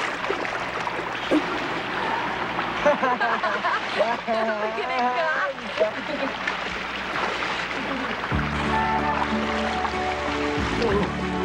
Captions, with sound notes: (all laughing) - Look at him go. (water lapping) (playful music)